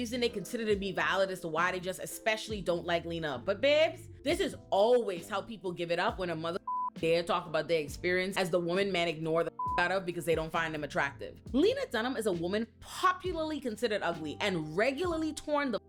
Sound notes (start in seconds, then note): 6.6 beep; 9.6 beep